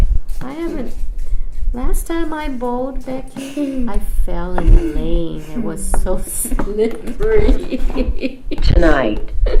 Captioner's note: laughs